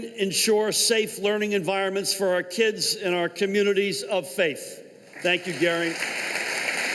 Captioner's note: applause